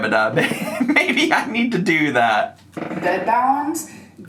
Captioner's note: laughs